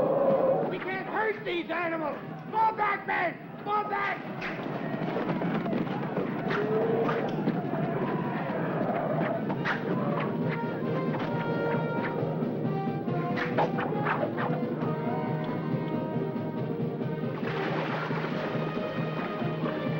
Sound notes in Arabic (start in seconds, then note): 0.0 زئير الفيلة; 4.3 أقدام الفيل تدوس; 5.4 أصوات الأسلحة; 9.7 موسيقى منتصرة